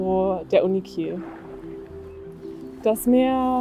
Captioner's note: sound of waves